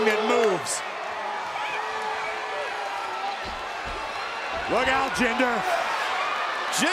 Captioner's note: applause